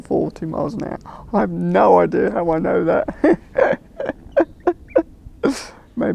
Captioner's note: laughs